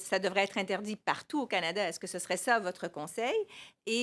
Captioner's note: speaking French